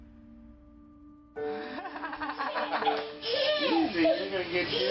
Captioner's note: laughs